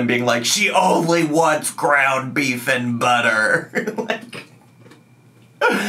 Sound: laughs

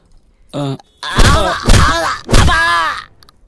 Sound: groans

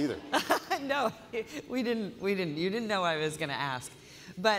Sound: laughter

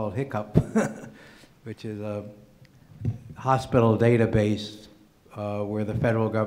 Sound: laughing

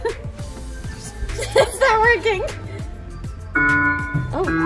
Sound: girls giggling; musical tones

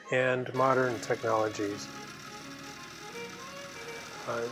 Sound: drill whirs

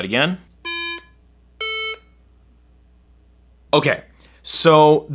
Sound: iPhone beeping

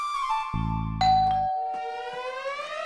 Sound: bell rings

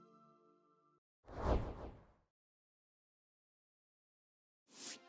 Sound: logo whooshing

